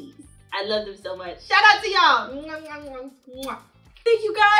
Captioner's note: lips smacking